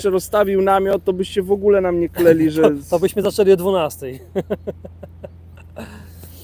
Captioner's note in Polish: śmiech